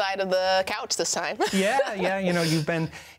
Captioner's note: laughs